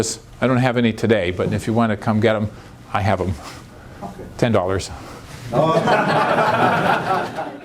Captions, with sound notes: I don't have any today, but if you want to come get them, I have them. $10. [ Laughter ]